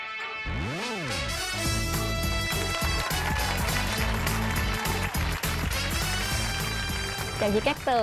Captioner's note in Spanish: aplausos